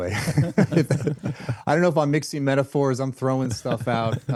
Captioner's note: laughing